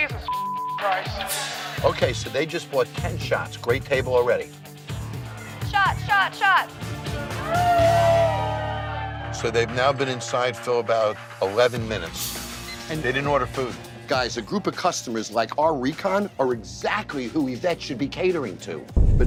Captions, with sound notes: - Jesus (beep) Christ. - Okay, so they just bought 10 shots. Great table already. - Shot, shot, shot. (group cheering) - So they've now been inside for about 11 minutes. - And they didn't order food. - Guys, a group of customers like our recon are exactly who Yvette should be catering to.